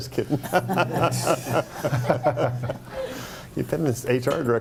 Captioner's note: group laughing